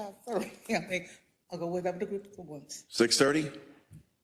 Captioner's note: laugh